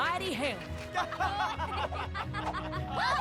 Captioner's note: laughter